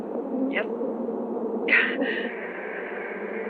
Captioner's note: gasps